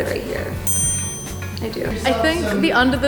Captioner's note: scoreboard dings